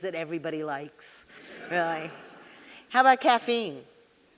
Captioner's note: audience laughing